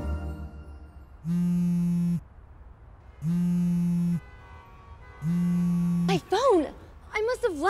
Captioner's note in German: handy vibriert